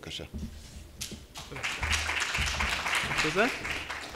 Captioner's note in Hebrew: מחיאות כפיים